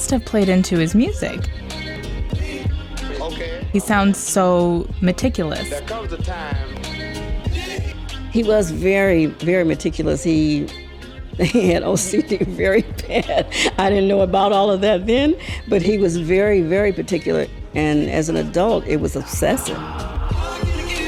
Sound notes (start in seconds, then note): 2.8 upbeat hip hop music; 13.8 laughing; 20.8 upbeat hip hop music